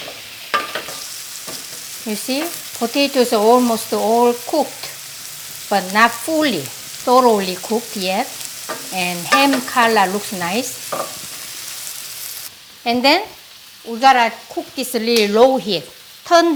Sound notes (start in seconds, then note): 1.0 sizzling